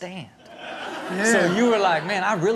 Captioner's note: crowd laughs